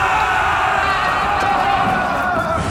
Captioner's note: battle cries